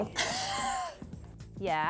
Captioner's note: laughs